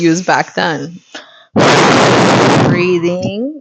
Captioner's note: blows raspberry